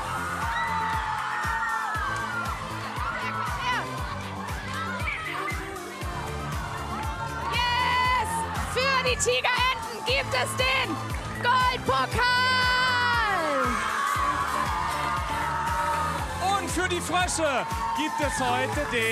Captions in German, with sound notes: Kommt her! Yes! Für die Tigerenten gibt es den Goldpokal. (Jubel) Und für die Frösche gibt es heute den Silberpokal.